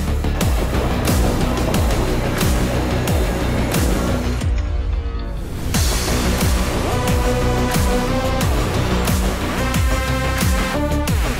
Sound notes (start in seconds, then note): 0.0 machine engine revs; 6.3 dramatic upbeat music